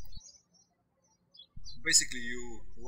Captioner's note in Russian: птички щебечут